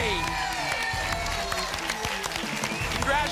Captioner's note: applause and cheering